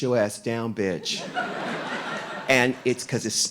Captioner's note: audience laughing